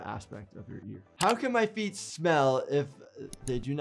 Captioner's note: keyboard keys clicking